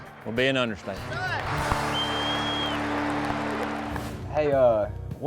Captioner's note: clapping, whistling